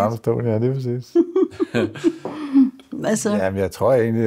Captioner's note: laughs